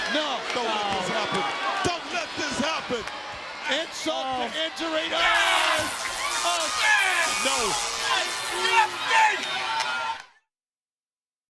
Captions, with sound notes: No. No. Don't let this happen. Don't let this happen! Insult to injury. Oh! (Scott yells) (electricity crackles) No. Get up, Sting!